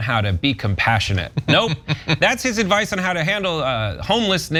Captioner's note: laugh